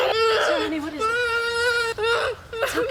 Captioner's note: moaning